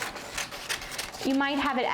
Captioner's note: scissors snipping